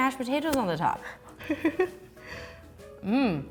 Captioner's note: laughs